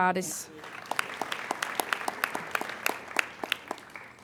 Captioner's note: applauding